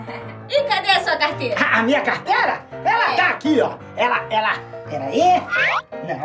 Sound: stuttering

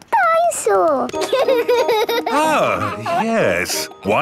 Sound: giggles

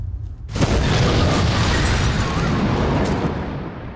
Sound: explosion

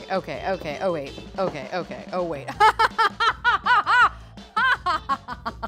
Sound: laughs

